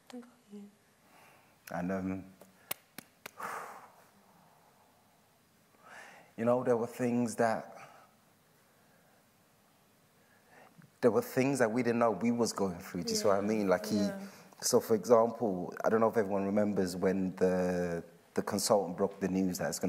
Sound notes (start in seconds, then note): 3.3 breathes out